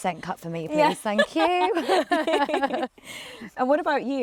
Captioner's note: laughs